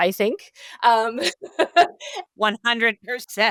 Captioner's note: laughs